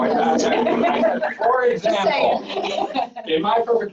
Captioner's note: chatter